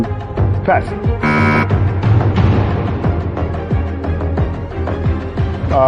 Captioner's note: buzzer sounds